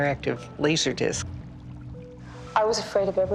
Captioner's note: water bubbling